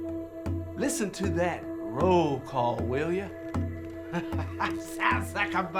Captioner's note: drumming music; laughing